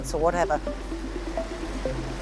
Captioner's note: water flows